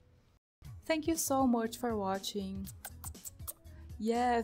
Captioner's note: kiss noises